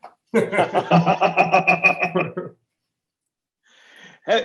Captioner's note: laughing